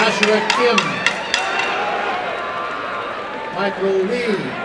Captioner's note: applause and cheering